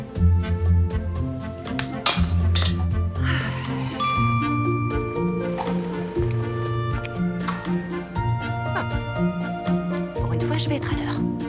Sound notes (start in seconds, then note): 3.2 sighs; 4.0 phone chimes